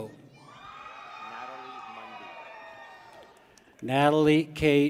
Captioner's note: people cheer